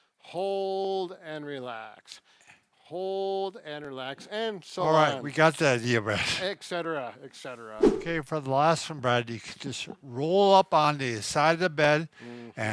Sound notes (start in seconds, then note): 7.8 scene swooshes